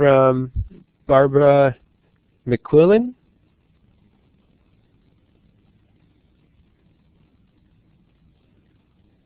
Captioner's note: pause